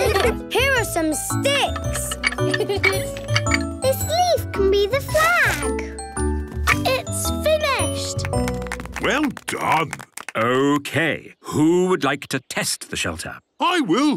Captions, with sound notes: - Here are some sticks! (laughing) - This leaf can be the flag. - It's finished. (applause) - Well done. - Okay, who would like to test the shelter? - I will!